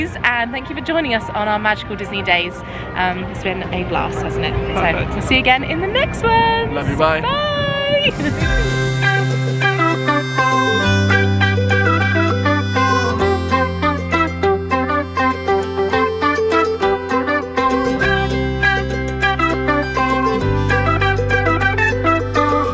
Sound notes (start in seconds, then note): 8.0 laughs; 8.3 upbeat music